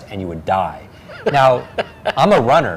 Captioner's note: laughs